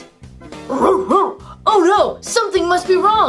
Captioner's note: barking